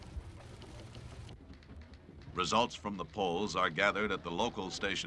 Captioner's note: indistinct chatter; machines click